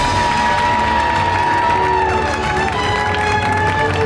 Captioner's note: applause